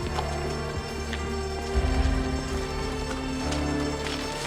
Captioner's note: alarm ringing